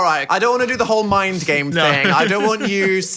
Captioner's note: laughs